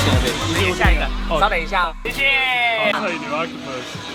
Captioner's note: speaking in Mandarin